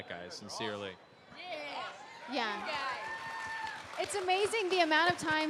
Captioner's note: cheering